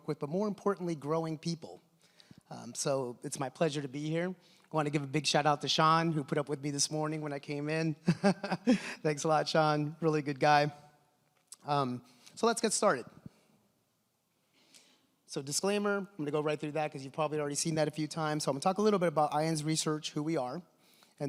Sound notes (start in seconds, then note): 8.6 laughs